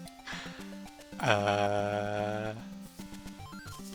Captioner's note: nervous laughter